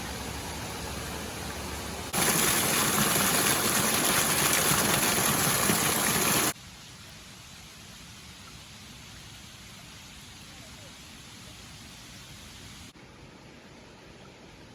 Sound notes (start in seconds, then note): 4.4 water cascading over the rocks